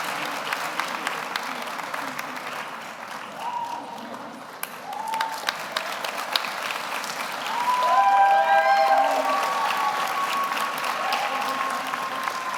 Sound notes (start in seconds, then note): 6.2 audience applauds; 7.4 audience cheers